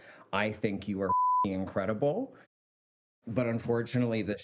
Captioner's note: beep